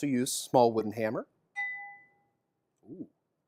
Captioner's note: ringing sound